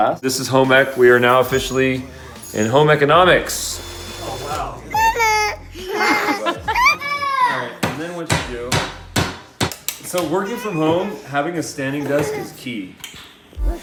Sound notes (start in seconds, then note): 5.0 screaming; 8.2 banging